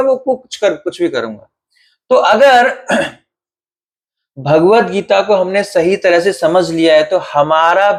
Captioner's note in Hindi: गला साफ़ करने की आवाज़